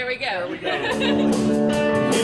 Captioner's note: laughs